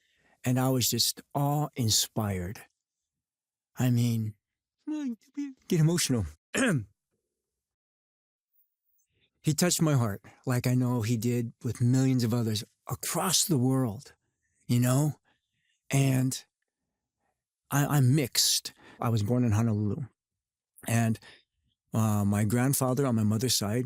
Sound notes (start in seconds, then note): 4.1 whimpers; 6.5 clears throat